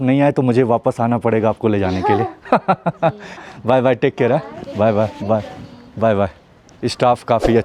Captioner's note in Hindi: हंसी